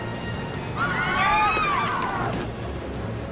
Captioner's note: screaming